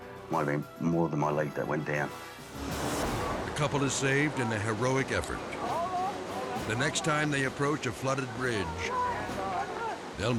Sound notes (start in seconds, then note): 2.4 dramatic music; 5.6 rescuers yelling; 5.7 water rushing; 8.1 rescuers yelling